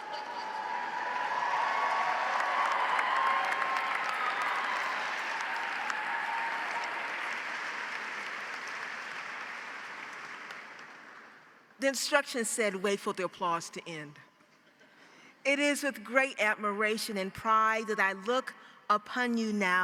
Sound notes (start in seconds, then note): 0.2 audience applauds; 2.2 audience cheers